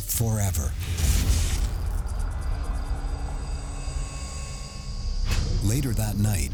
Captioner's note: foreboding music; crickets chirping